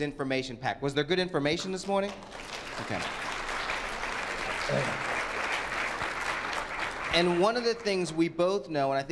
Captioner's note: applause